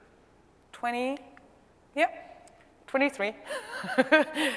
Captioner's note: laugh